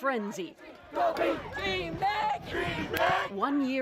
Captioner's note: chanting